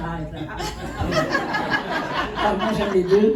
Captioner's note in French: rires